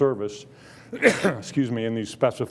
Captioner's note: coughing